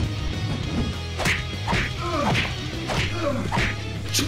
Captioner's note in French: Bruitages de jeux vidéo